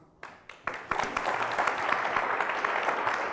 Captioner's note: applause